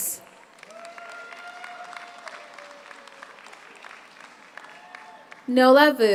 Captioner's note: audience applauds; audience cheers